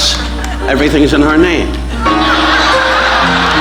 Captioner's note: audience laughing